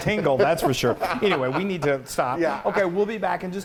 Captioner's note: laughs